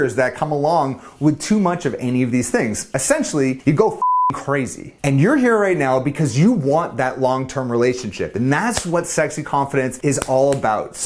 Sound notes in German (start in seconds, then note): 4.0 piepen